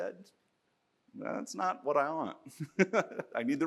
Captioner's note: laughs